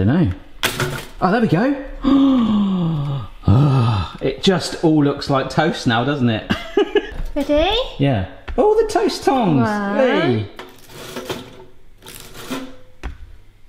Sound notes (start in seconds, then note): 2.0 sighs; 6.5 laughs